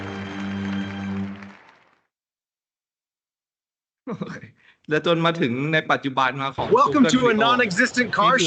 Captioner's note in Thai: ปรบมือ